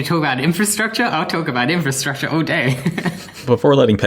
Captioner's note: laughs